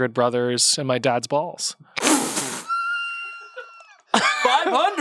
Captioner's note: laughs